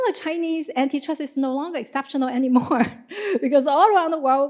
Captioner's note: chuckles